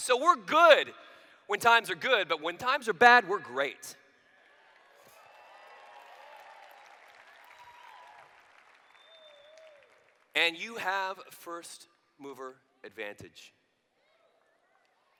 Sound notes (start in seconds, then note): 4.2 applause